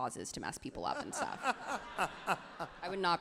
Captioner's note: crowd and Ken laughs happily